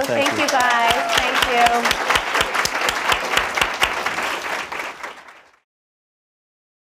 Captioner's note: applause